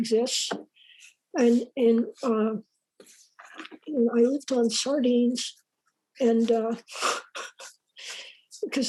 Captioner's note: laughs